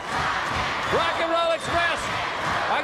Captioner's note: crowd cheering